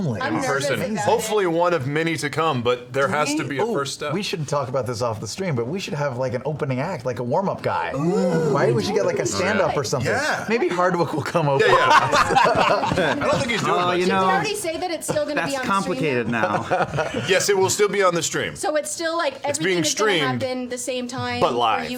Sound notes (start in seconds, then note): 11.6 laughter